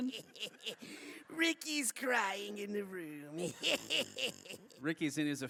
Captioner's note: laughing